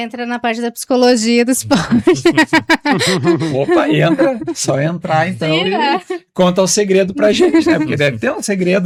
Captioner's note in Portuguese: risadas